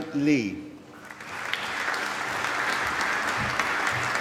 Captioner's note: applause